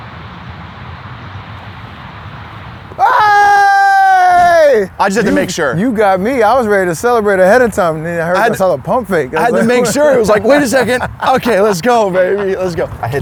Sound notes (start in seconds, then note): 2.9 screams; 11.0 laughs